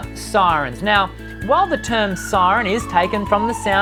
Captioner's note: siren blaring